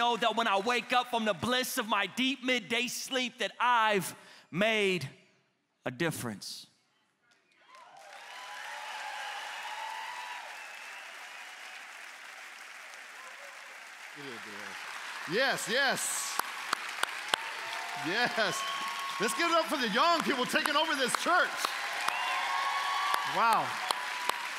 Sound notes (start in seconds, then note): 13.3 applause; 19.6 applause